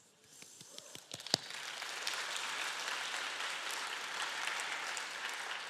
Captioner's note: applause